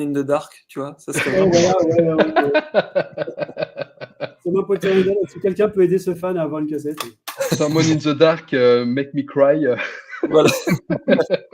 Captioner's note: laughs